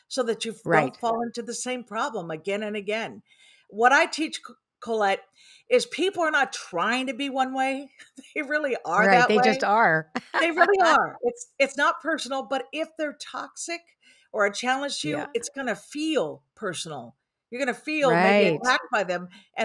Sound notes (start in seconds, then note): 10.2 laughs